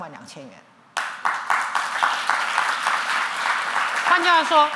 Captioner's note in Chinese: 掌聲